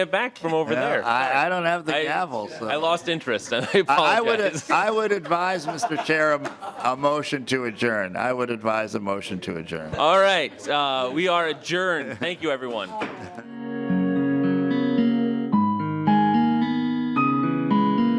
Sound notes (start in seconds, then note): 4.8 laughing